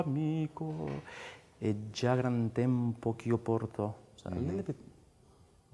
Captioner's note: speaks in foreign language